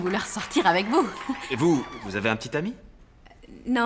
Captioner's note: applause